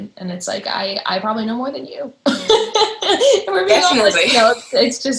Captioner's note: laughter